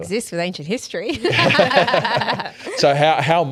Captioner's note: all laughing